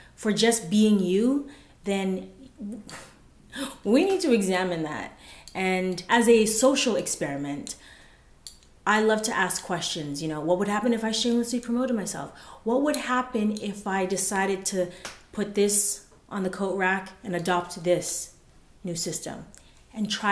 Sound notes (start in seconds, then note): none